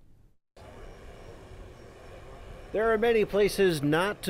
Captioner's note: motor running